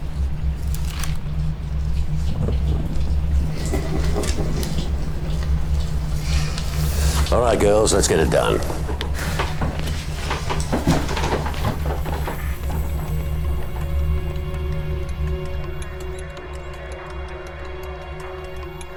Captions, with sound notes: [Laughter] Alright girls, let's get it done.